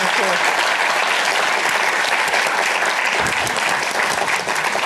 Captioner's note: applause